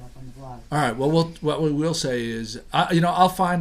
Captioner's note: voiceover